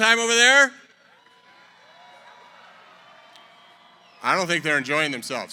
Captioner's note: cheering